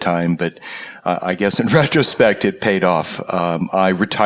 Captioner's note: laugh